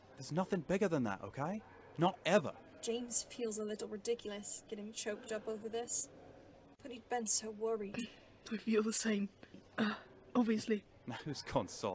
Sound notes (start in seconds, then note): 9.4 James clears his throat